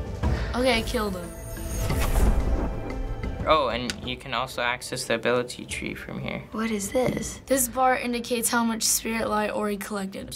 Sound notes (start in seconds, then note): 1.2 gentle chime, burst of energy